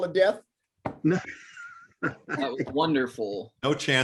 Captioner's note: laughter